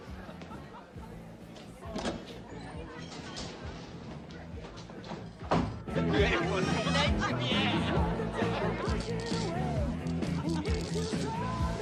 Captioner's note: background noise of New Year's party